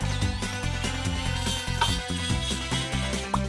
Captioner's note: screw hissing